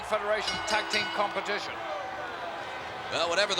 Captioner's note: bell rings